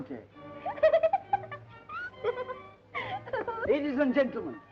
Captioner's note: giggling